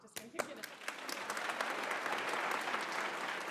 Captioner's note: applause